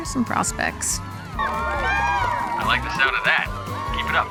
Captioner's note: cheering